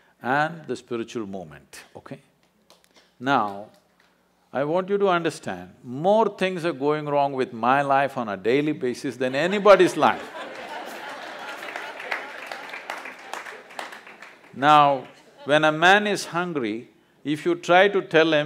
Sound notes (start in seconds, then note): 9.4 laughter/Applause